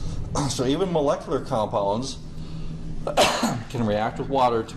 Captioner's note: coughs